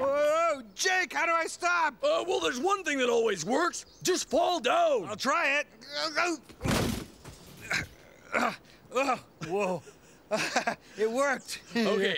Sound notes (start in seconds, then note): 6.5 thud; 7.6 Stinky grunting; 9.4 Jake laughing